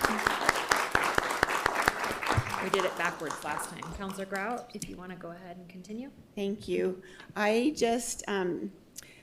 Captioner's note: applause